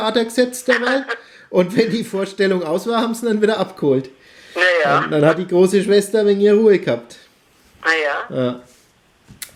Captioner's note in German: beide lachen